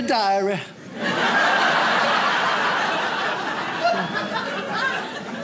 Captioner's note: audience laughs